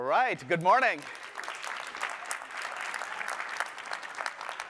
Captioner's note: applause